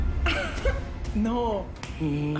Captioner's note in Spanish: Risas